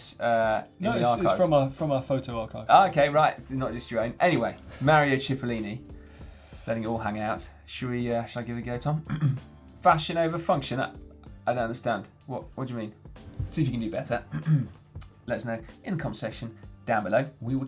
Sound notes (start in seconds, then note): 9.0 clears throat; 14.2 clears throat